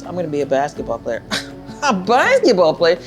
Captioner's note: scoffs